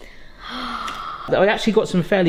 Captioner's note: gasps